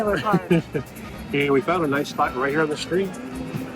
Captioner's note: laughs